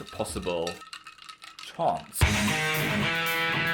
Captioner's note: bottle clinks; upbeat rock music